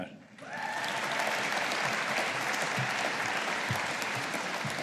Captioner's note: audience applauding